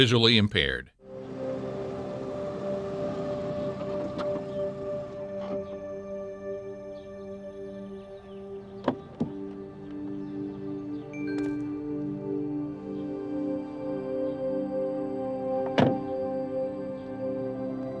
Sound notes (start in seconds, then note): 1.9 car approaching; 3.9 engine stops; 5.9 birds chirping; 9.9 light music